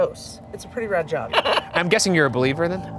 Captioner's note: laughing